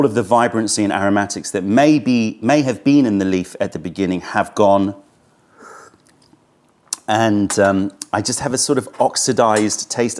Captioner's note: sips tea